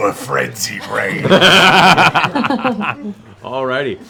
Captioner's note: laughter